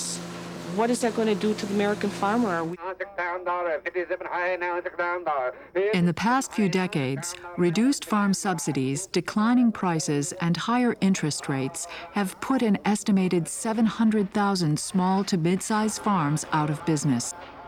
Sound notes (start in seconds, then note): 2.4 auctioneer calling